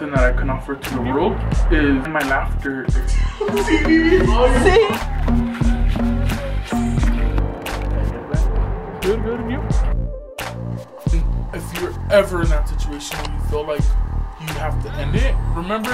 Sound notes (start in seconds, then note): 3.0 laughing